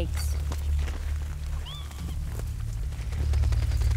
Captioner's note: animals calling